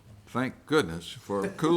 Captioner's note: all chuckling